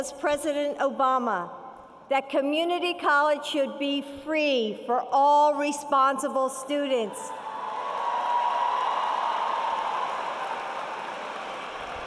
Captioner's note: applause